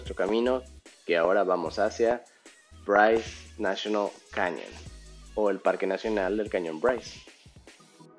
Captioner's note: Spanish